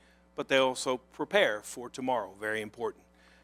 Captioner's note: none